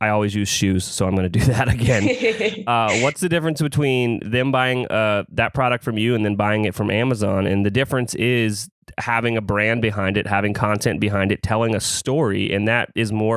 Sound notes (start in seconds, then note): 1.4 laughs